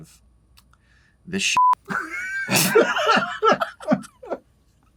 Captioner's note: laughter